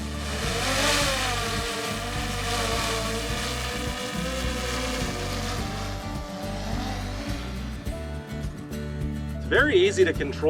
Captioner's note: drone buzzing fades